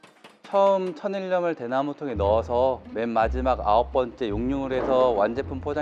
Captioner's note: speaks in a foreign language